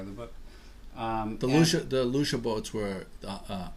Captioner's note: voiceover